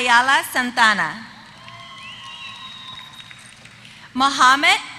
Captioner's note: applause